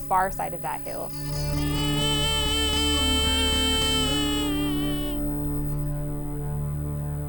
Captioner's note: deer calls